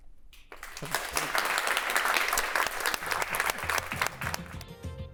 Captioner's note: crowd applauds